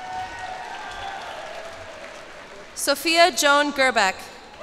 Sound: cheers and applause

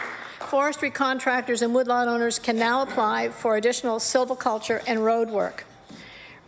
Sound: applause

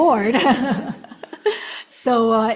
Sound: audience laughing

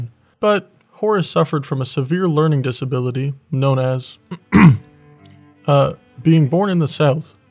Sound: ahem

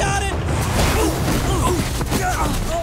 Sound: grunting

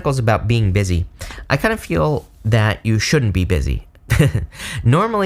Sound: chuckles

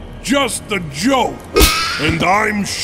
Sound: Secretary screams

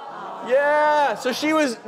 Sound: audience groans

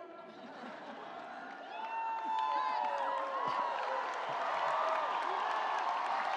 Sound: audience applauding; audience cheering

